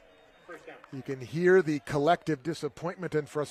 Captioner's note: applause